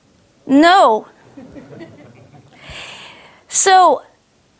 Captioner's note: audience laughs